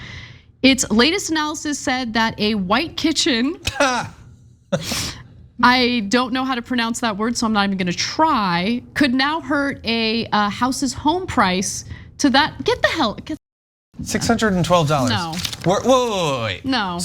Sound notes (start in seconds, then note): 3.7 laugh